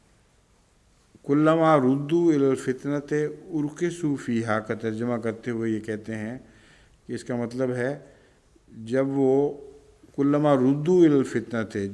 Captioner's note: Arabic